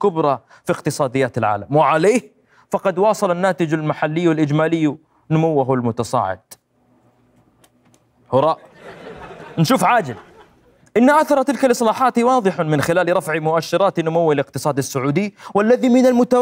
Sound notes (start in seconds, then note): 7.5 throwing paper